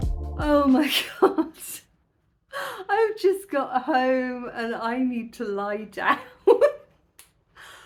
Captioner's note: laughing